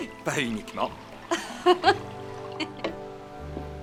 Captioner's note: laughing